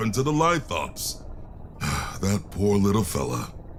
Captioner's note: sigh